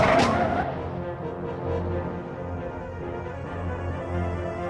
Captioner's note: tires squealing